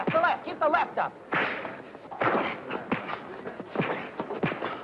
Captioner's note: fists thudding